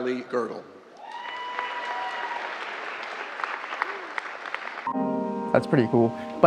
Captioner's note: crowd cheering; crowd clapping